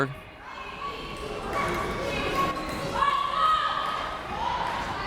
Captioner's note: crowd members shouting